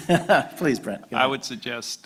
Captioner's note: laughter